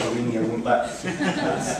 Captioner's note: laughter